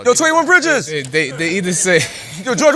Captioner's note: laughs